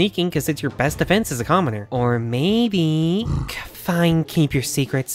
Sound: grunts in disapproval

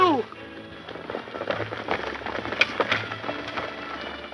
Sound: horses galloping

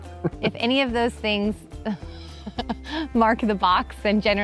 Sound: laughs

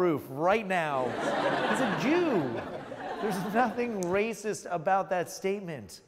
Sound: laughs

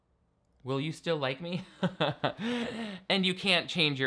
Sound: laughs

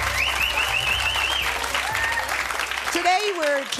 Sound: whistling

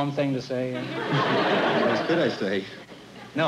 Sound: laughter

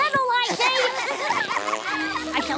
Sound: laughing

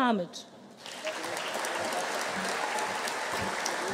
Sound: audience cheering

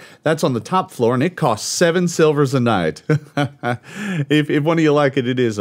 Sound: laughs

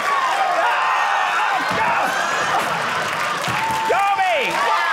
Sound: audience cheering

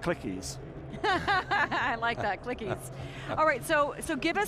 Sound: laughs

